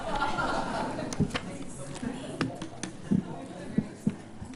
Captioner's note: attendees laughing